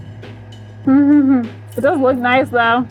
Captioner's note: hums